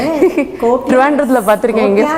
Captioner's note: in Tamil